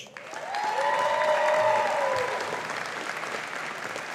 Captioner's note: audience applauding